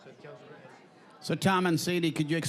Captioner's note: with Scottish accent